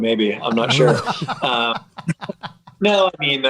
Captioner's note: laughter